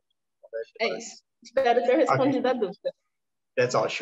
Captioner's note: speaking portuguese